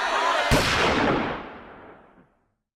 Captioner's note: gunshot fired